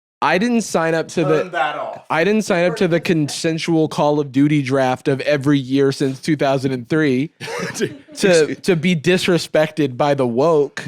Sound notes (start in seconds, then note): 7.4 laughs